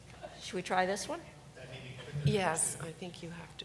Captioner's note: man speaking quietly